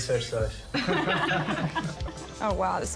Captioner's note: laughter